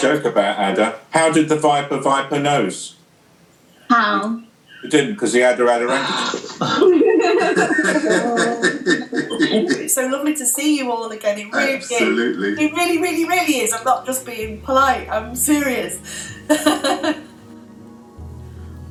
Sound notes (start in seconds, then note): 6.0 laughter